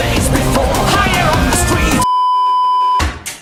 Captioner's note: screaming